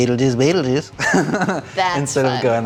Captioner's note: laughter